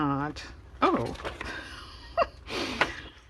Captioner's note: laughs